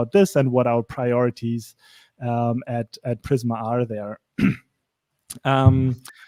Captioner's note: clears throat